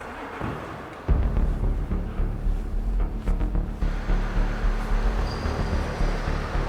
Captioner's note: car engine humming; dramatic music